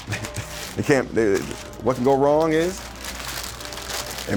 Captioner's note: chuckles